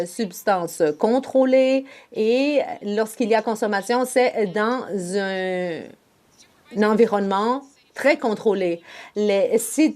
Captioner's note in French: voix de l'interprète